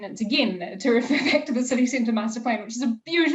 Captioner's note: laughing